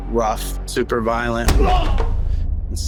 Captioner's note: oz groans